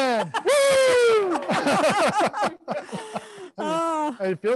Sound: panelists laughing

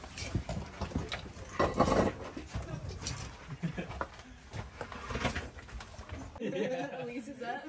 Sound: sound of crunching rock and laughter

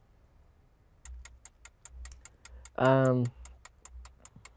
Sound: clock ticking

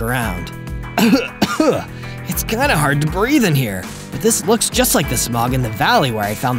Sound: cough cough

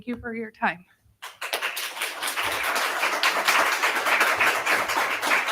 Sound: audience clapping

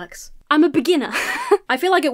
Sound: chuckles nervously

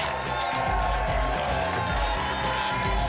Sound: applause and cheering cont

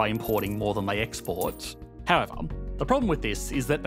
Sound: money jingling

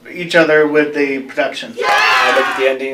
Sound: applause

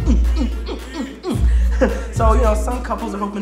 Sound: chuckles

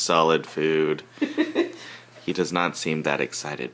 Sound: laughing

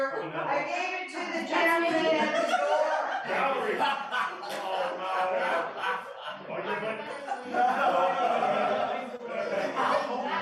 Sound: laughter

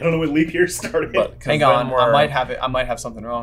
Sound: laughs

